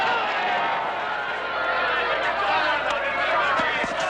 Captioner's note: crowd cheers